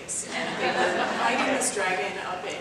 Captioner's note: audience laughs